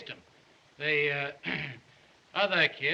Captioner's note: clears Throat